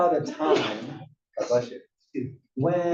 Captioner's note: cough